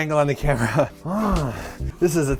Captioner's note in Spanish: Gruñidos sugerente